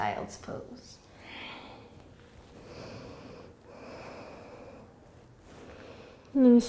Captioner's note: breathing